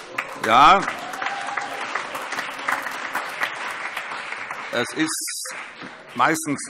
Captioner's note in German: Vereinzelter Beifall